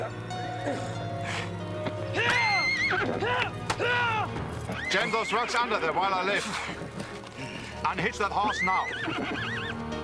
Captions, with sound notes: - Hi-ya! Ha! Ha! - Gentle thrusts under there while I lift. (horse whinnies)